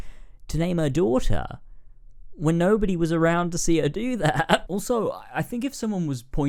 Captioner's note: laughs